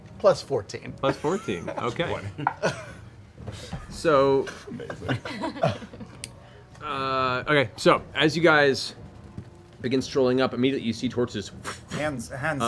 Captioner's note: fire sounds